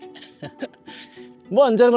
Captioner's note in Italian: risate